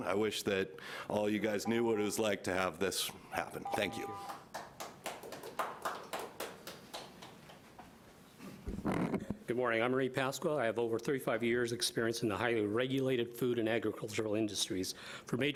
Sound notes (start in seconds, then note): 3.8 audience applauding lightly